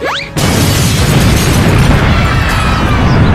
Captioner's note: explosion; fairies cheering